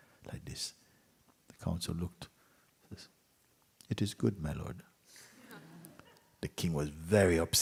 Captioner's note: laughter